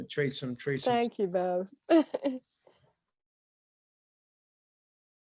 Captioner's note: laughing